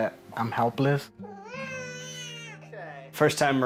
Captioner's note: baby crying